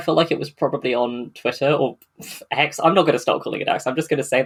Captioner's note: scoffs